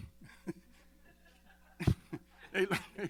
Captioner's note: laughter